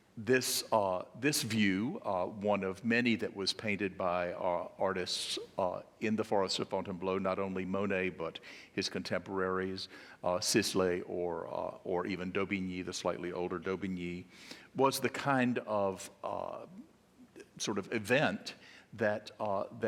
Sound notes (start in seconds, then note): none